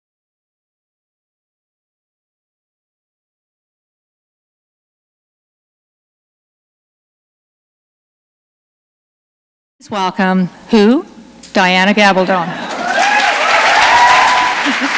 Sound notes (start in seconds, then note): 12.5 applause